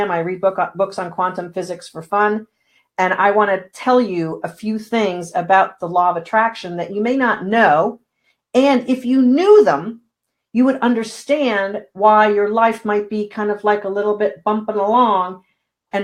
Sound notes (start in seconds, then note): none